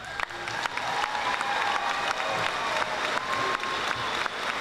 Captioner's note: audience applauding